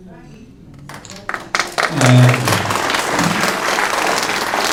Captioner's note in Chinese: 掌声